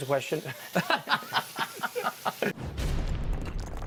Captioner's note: laughing; rocks crashing